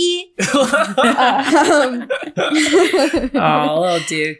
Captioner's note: laughing